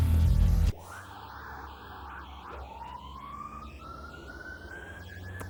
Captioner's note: distant siren wailing